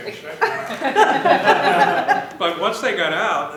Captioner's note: laughter